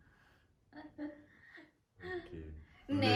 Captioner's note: laughing